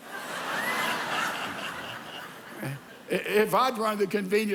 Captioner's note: congregation laughs